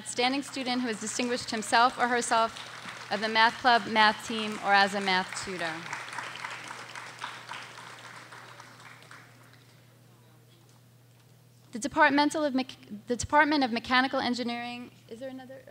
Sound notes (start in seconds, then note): 6.8 audience applauding